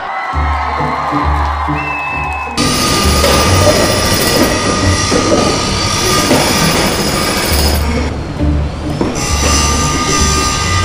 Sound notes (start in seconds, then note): 0.0 crowd cheers; 2.5 machinery whirs